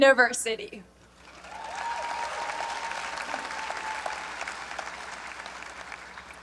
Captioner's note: graduates applaud and cheer